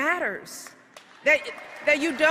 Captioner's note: applause